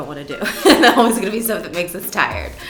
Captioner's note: laughs